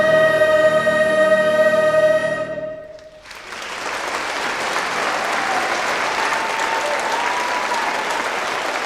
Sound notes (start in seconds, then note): 3.0 audience applauding; 3.1 audience cheering